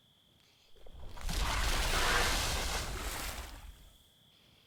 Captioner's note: waves crashing